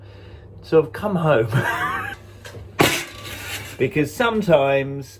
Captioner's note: laughs